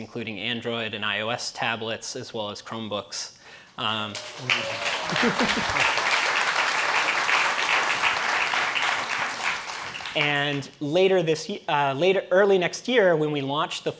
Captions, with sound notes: including Android and iOS tablets, as well as Chromebooks. (applause) And early next year, when we launch